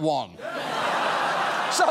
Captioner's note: laughter